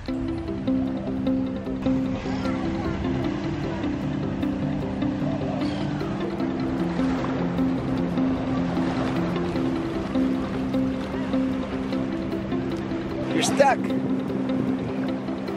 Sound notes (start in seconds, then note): 0.1 light music; 7.1 waves crashing; 10.7 light music